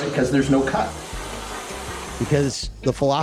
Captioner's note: whipped cream jettisoning from can